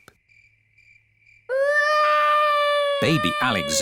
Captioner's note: baby alexander crying